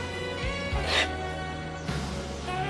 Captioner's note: sobs